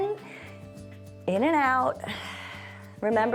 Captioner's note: exhales